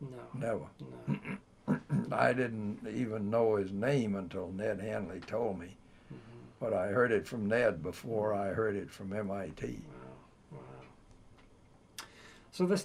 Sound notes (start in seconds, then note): 8.1 laughs